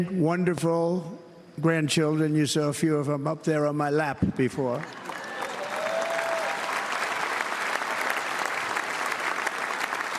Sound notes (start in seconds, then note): 4.8 cheers and applause